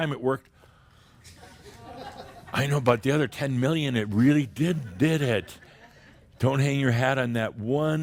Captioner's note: some chuckles